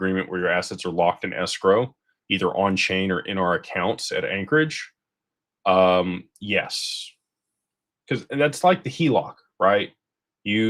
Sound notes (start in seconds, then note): none